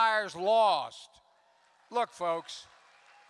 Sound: applause

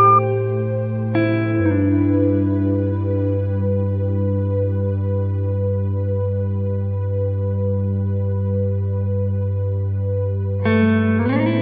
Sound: flatline sound

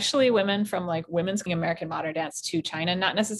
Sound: audio distortion

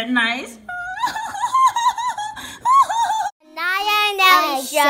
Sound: crying

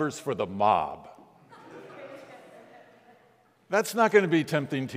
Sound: congregants laughing

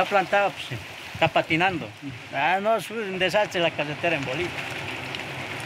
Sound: water trickling; driver speaking in foreign language

